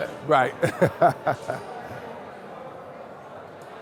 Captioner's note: laughs